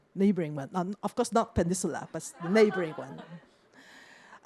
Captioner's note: laughter